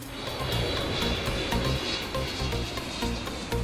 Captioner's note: jet engines